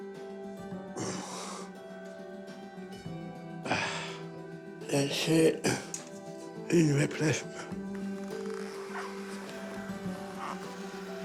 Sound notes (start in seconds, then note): 3.6 sighs; 8.2 razor buzzes